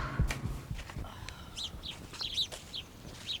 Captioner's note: exhales sharply; birds chirping